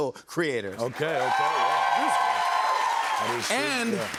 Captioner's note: cheers and applause